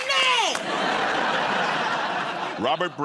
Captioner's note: laughter